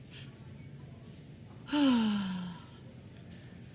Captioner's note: sighs